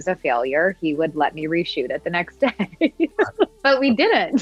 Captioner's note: laughs